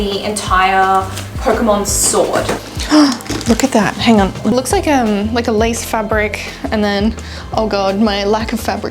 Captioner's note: gasps